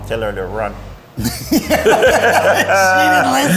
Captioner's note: both laughing